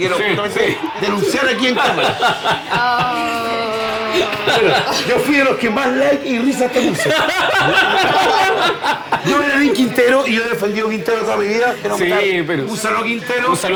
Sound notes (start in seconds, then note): 3.6 laughs